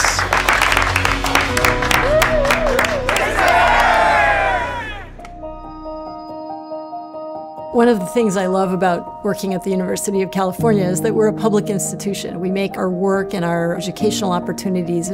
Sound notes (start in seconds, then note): 0.0 audience applauding; 2.3 audience cheering; 5.5 gentle music